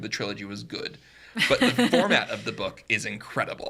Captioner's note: podcaster laughing